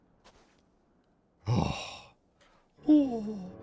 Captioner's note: sighs